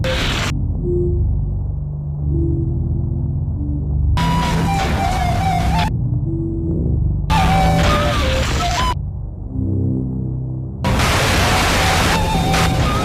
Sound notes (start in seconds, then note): 0.2 soft eerie music; 4.1 eerie electronic music; 4.1 static crackling